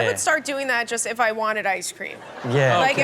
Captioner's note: crowd laughs